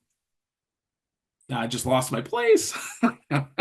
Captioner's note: laughs